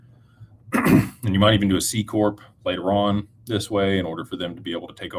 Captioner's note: clears throat